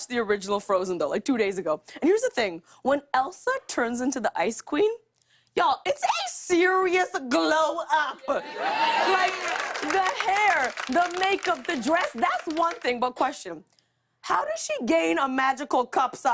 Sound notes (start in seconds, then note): 8.2 cheering